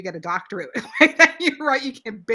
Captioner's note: laughs